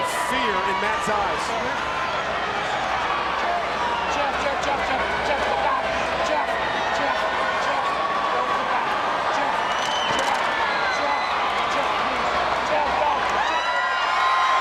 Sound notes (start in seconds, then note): 2.4 audience chattering; 10.4 audience cheering and clapping